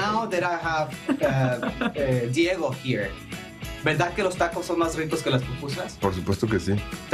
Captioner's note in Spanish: habla en ingés